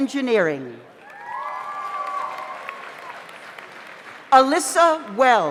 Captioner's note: audience applauds; audience cheers